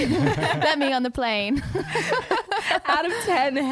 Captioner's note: laughing together